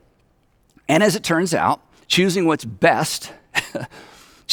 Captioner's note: chuckles